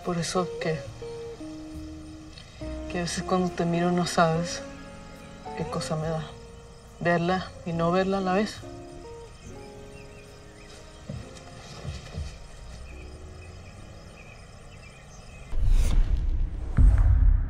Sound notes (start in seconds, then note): 11.9 birds tweeting; 11.9 insects chirping